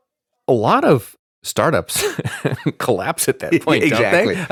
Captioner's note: laughs